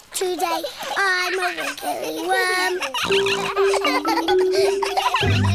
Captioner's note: all laughing; snorts